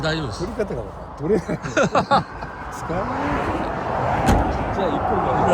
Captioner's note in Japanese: 笑い